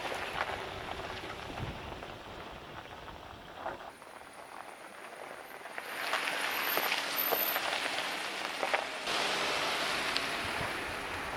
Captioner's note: wind blowing